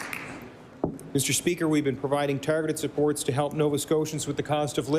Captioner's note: applause